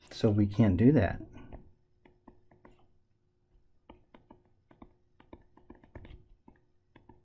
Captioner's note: tapping Sounds